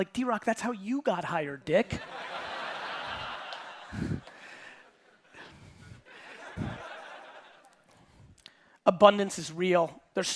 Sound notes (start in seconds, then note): 2.0 audience laughing